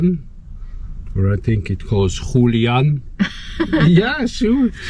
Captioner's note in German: spanisch